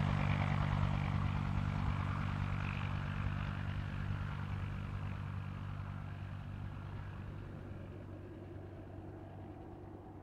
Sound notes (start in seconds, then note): 0.0 helicopter sound fades as ship departs